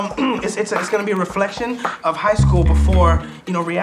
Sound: clears throat

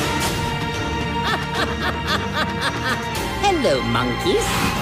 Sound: laughs

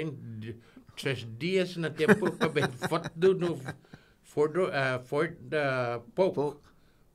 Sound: laughing

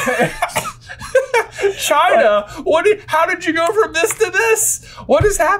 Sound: laughs

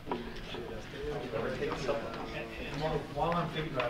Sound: murmuring

